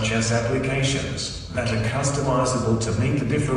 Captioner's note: none